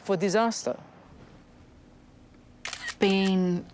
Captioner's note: camera shutter clicks